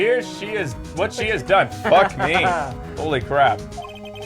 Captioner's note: laughs